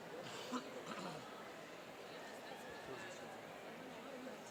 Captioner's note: clearing throat